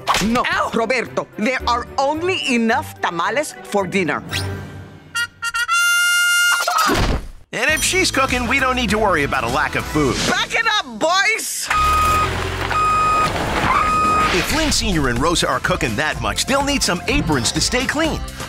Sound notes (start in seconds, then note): 11.7 beeping